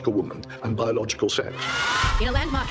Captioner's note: crowd cheers